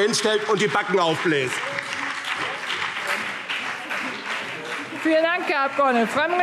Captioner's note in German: Beifall BÜNDNIS 90/DIE GRÜNEN und vereinzelt CDU